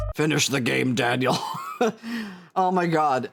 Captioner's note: laughs